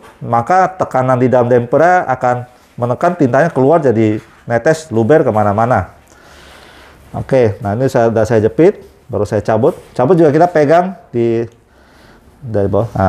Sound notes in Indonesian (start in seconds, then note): none